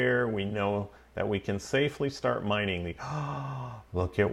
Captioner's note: gasps